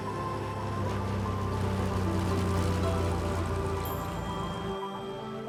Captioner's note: airplane engine roaring